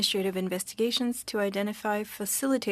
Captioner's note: speaking French